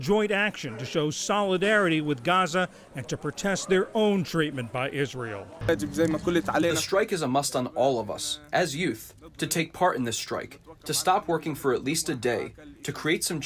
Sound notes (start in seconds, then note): 6.6 through translator